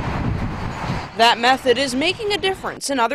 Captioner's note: sound of cars